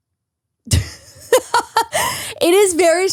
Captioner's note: laughs